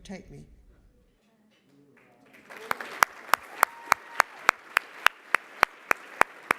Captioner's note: applause